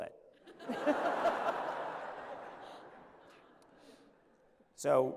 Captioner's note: laughter